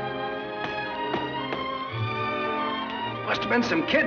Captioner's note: stomping